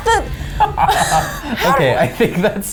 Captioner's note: laughs